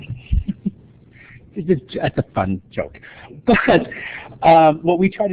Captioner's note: laughter